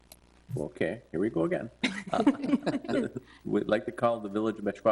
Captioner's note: laughter